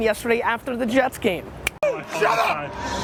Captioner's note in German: Schnippt mit den Fingern